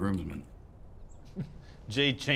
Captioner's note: laughs